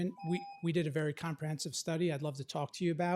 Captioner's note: timer tone